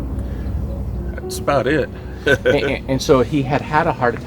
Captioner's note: chuckling